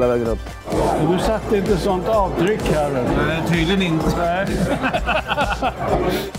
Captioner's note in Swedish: Skratt